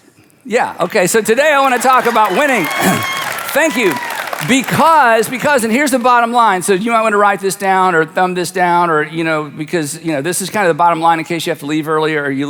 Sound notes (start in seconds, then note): 3.1 audience applauds and cheers